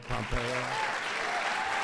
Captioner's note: applause